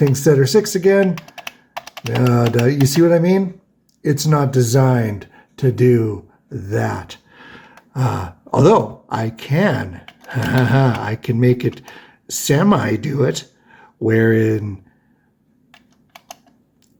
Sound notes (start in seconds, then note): 10.2 ha ha ha!